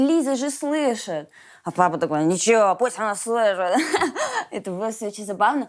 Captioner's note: laughs